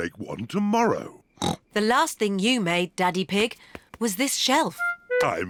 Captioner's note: snorts